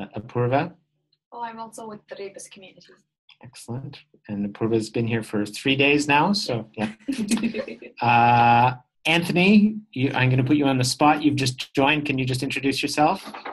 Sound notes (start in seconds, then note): 8.0 chuckle